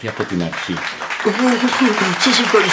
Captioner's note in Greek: χειροκροτήματα